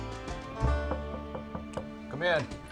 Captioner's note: upbeat country music; knocking on door; door opens